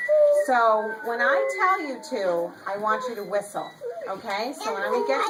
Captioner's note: children whistling in the background